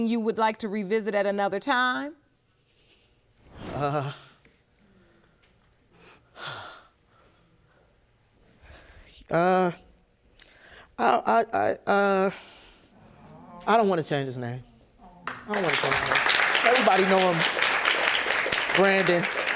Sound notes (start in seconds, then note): 7.0 sighs; 11.9 stuttering; 15.2 audience applauding